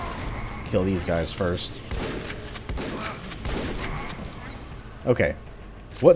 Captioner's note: shotgun blasting